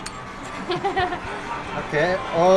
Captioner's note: laughs